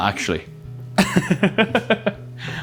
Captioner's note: laughs